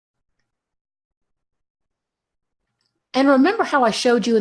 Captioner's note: mouse clicks